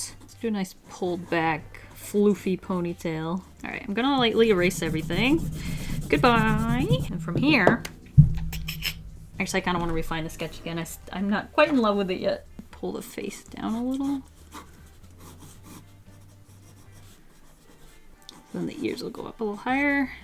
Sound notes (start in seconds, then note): none